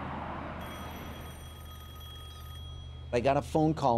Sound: telephone rings

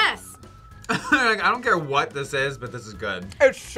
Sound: laughs

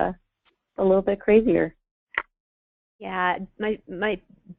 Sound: voiceover

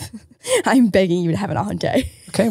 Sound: laughs

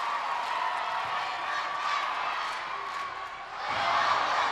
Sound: cheerleaders cheering

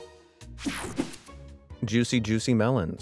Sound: transition zapping

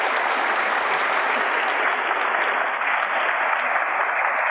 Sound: audience applauds

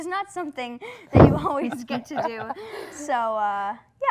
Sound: pleasant laughing

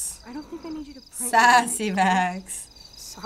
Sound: chuckles

